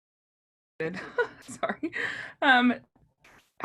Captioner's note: chuckles